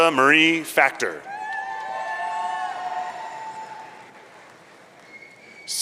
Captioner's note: audience cheering